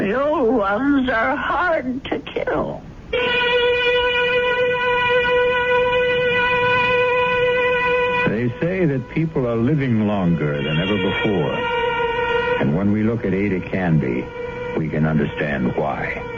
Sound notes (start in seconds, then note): none